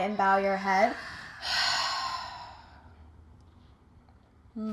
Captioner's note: audible sigh